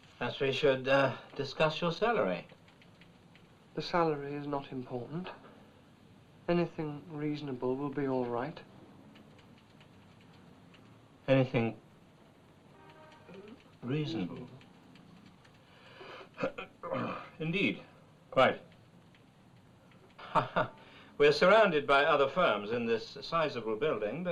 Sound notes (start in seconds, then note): 16.3 clearing throat; 20.1 chuckling